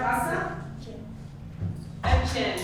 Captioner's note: Hebrew